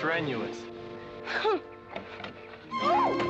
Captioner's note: scoffs